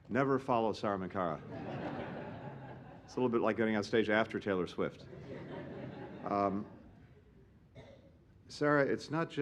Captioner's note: laughter